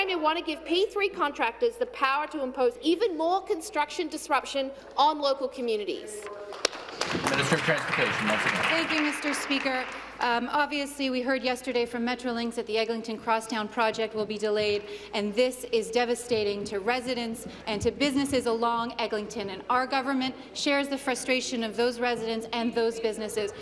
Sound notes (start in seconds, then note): 9.5 applause